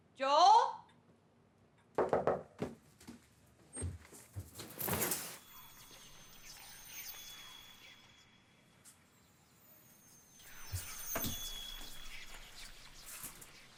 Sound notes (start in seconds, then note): 2.0 fist rapping; 4.1 curtains scraping; 4.9 ominous whispers